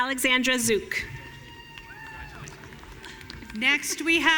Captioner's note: audience cheering